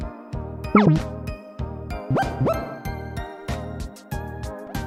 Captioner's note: menu sound effects